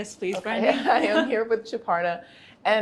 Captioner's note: both laugh